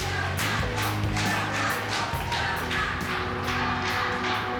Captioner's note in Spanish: Algarabia